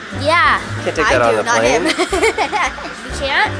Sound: laughing

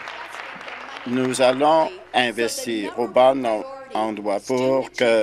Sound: applause

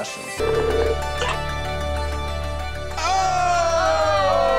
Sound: reflective music; video chat ringing

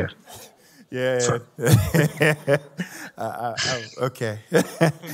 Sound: laughs

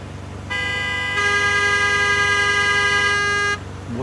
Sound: horns blaring

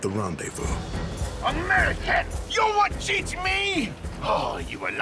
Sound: french accent

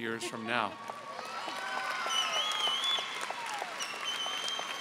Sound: audience applauding

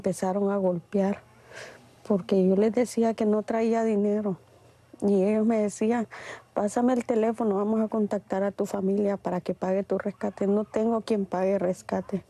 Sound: speaking in a global language

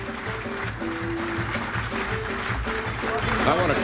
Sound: applause

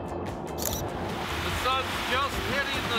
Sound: camera clicks

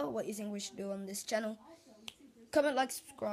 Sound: click

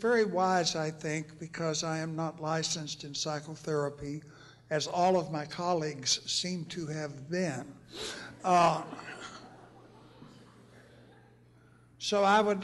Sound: laughter

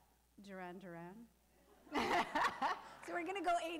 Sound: laughing

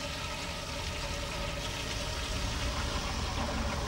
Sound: <i> toilet flushes</i>

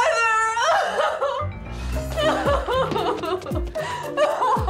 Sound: woman sobbing

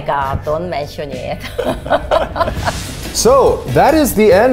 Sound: laughs

